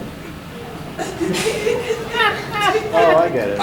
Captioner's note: audience giggling